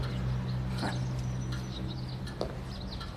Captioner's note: chuckles